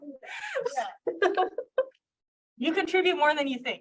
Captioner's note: chuckling